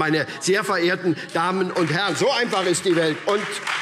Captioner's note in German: Beifall SPD und Freie Demokraten